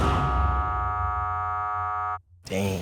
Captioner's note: buzzer sound